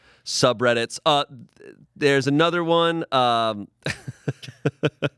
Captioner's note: laughs